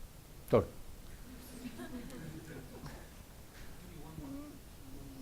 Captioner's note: audience laughs